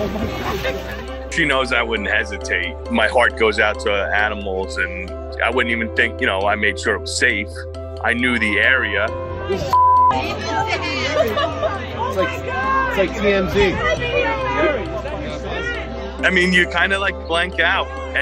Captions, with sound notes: - She knows I wouldn't hesitate. My heart goes out to animals and I wouldn't even think. I made sure it was safe. I knew the area. - Oh, (beep). (people chattering) - Oh, my God! - It's like TMZ. - I mean, you blank out,